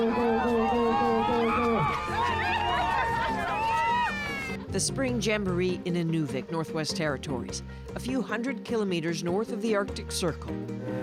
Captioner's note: cheering